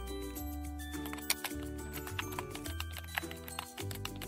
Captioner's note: keyboard typing